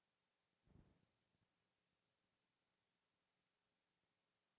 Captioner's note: none